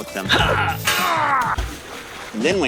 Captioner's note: grunting